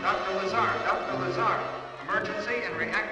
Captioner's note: loudspeaker